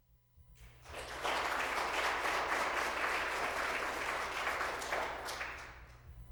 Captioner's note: applause